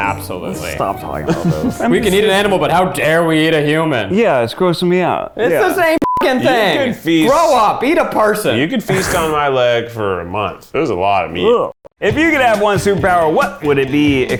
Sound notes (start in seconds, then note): 1.2 chuckles; 6.0 beep; 8.9 scoffs